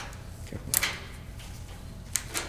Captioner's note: snipping